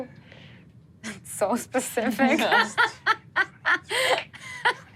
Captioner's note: laughs